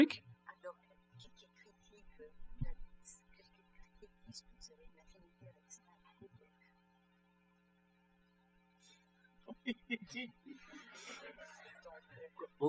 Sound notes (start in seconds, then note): 0.1 speaking french; 9.4 laughter; 9.4 laughs; 12.5 speaking french